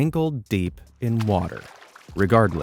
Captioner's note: water splashing softly